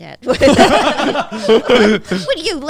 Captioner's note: everyone laughing